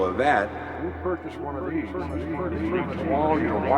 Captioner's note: echoing